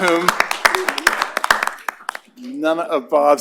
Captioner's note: applause